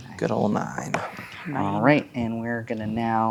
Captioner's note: dice rolling